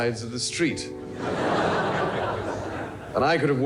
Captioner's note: crowd laughing